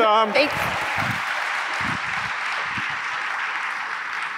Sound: applause

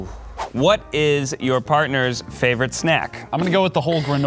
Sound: voiceover

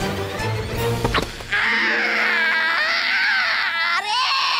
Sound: screaming

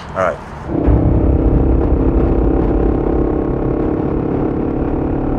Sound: motorcycles drone

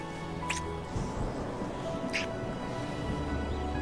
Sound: kissing sounds

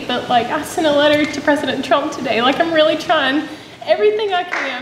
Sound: audience clapping

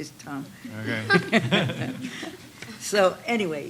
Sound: laughter

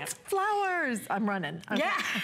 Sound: laughter

